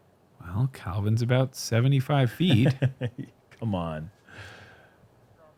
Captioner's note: laughs